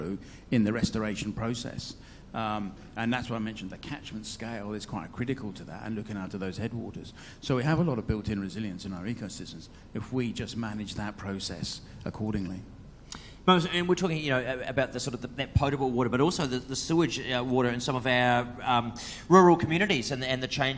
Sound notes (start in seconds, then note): none